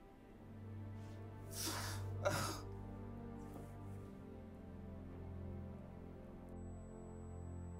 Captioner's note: melancholy music; Darnell cries